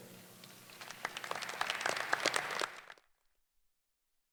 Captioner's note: applause